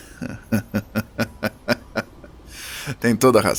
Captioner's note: Téo laughs sarcastically